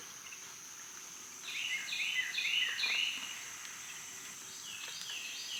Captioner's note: birds and crickets chirping